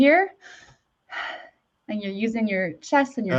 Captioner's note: inhales and exhales sharply